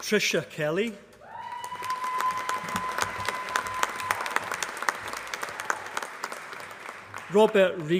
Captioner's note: applause